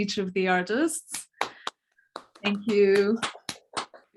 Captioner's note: clapping